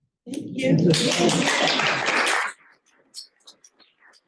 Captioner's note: applause